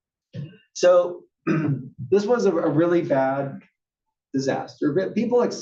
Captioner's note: cough